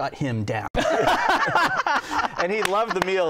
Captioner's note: laughter